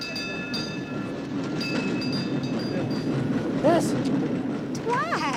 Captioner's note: tram rumbling quietly; bell dinging